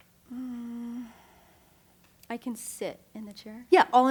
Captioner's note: sighs